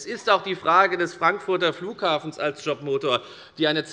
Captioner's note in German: none